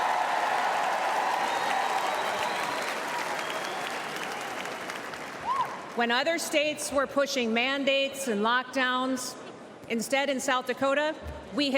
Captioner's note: cheers and applause